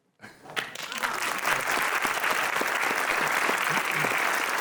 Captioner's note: all clapping